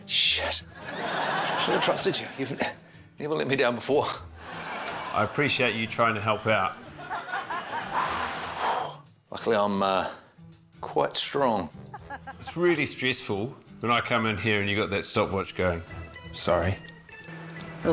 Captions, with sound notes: Shit. I should've trusted you. You've never let me down before. - I appreciate you trying to help out. - (EXHALES) Luckily I'm, uh, quite strong. - It's really stressful when I come in here and you've got that stopwatch going. - Sorry.